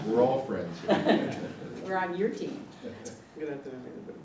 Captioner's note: laugh